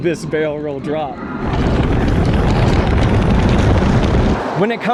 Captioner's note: coaster sounds